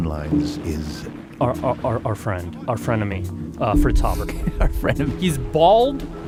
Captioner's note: laughs